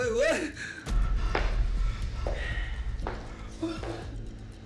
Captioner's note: footsteps tapping; dramatic music